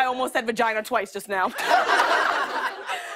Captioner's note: laughter